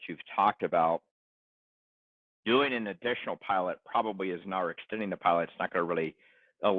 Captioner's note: huff